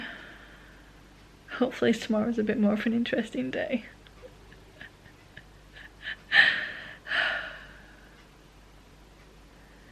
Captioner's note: laughing